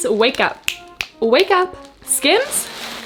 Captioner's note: snaps